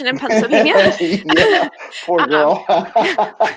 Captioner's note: laughing; laughs